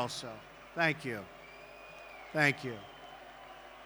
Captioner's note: applause